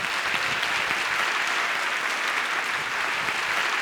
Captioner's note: applause